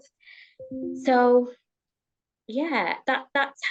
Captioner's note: device pinging